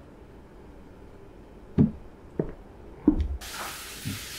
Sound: footsteps

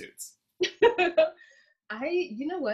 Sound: laughs

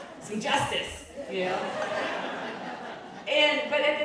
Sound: crowd laughing

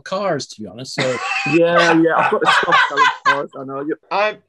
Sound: laughing

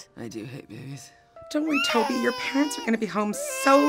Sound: crying

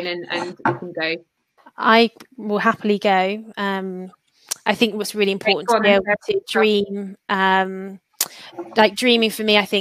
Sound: erm

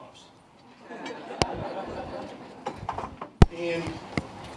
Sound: laughter

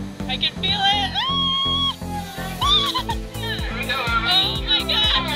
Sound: squealing

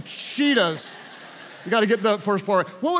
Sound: congregation laughs

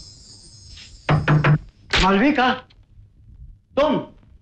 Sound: door knocks

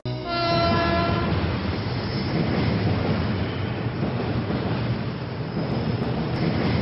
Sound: train whistle and other..train..sounds

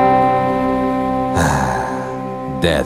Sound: sigh

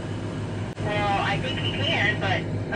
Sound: over the walkie-talkie

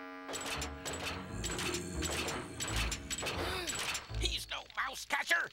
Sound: groaning; gasping

